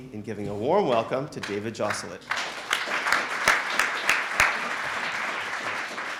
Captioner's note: audience applauding